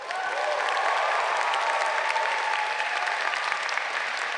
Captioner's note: audience cheering